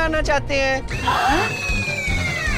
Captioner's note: gasps